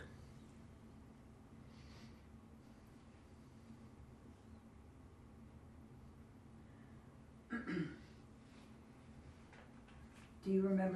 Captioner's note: pauses 10 seconds